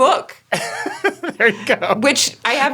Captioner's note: laughs